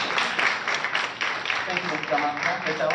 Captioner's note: applause